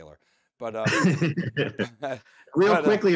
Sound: chuckling; laughing

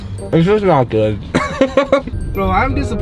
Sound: laughs

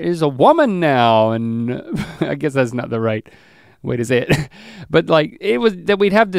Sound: chuckles

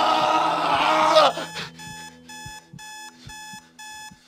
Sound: screaming; alarm clock beeping

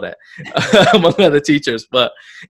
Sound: laughs

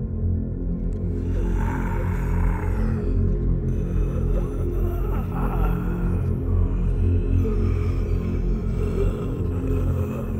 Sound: louder group undead sounds

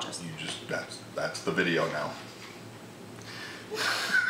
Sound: laughing

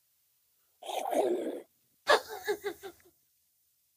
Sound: laughs

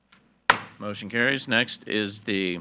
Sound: gavel thuds

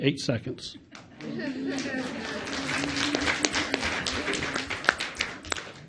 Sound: audience chuckles and applauds

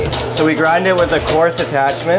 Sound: machine whirs

